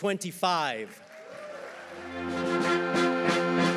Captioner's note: audience applauding; audience cheering; upbeat band music